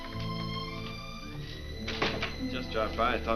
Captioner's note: door closes